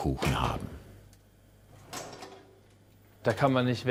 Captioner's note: metallic clattering